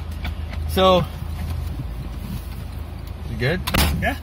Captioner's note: sound of fat man running